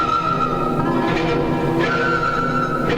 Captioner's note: none